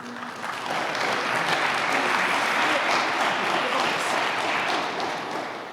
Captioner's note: applause